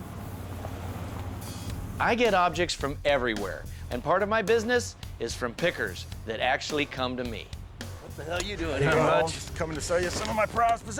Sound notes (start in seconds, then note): none